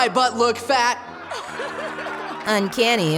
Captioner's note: laughing